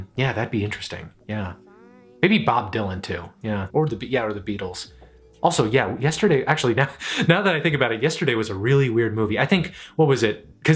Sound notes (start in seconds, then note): 6.8 chuckles